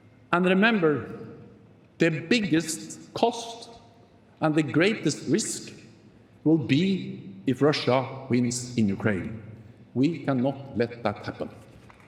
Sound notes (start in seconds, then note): none